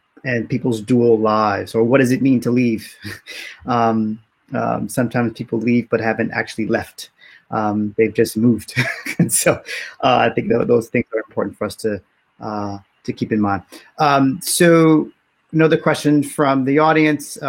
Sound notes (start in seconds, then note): 3.0 chuckles; 8.8 laughs